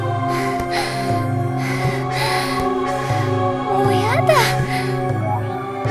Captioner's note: sighing